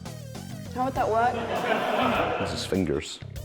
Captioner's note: laughter